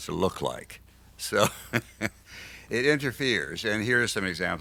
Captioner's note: laughs